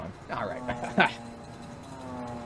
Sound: laughs

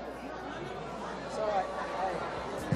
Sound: crowd boos

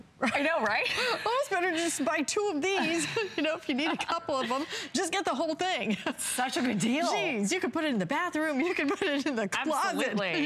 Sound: laughter; laughter

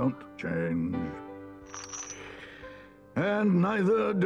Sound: trap clangs

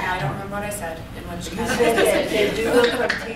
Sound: laughter

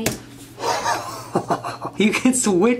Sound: laughs

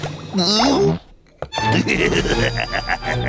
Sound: laughing

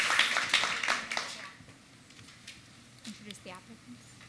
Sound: applause

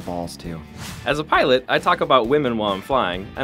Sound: voiceover

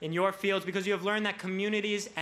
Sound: none

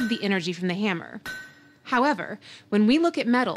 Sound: steel ringing

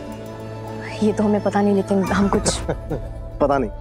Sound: chuckling

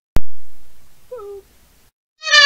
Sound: boop noises

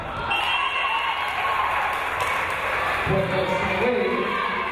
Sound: whistle blows

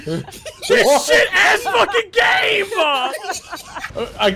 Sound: laugh

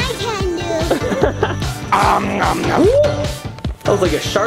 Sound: animal sounds

